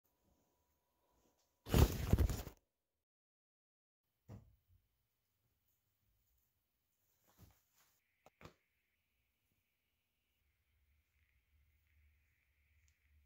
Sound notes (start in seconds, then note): 1.6 clothes fall into hamper